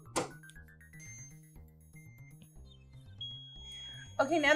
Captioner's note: machine beeping